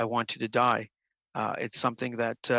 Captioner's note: speaking in French